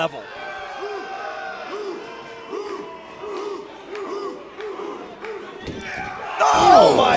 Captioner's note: crowd cheering